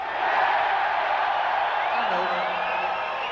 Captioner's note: crowd cheering